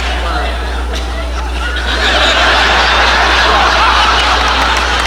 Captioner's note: audience laughing